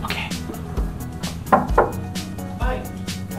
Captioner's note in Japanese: ノック音